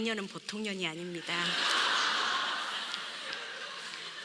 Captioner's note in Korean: 웃음